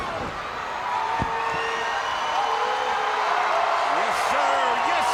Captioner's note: body thuds; crowd cheering